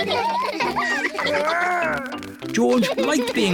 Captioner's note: all laugh